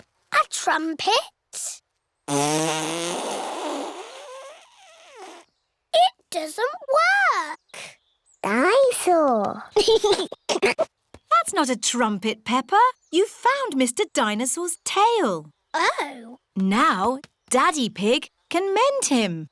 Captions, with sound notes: A trumpet? (BLOWS RASPBERRY) It doesn't work! Dine-saur! (GIGGLES) That's not a trumpet, Peppa. You've found Mr. Dinosaur's tail. Oh. Now Daddy Pig can mend him.